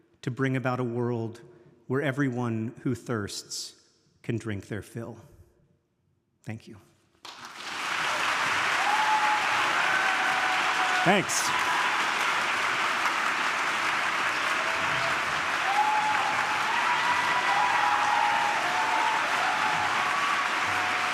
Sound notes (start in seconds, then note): 7.5 audience clapping and cheering